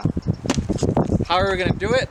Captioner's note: smack